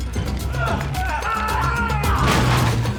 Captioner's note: bones crunching, grunting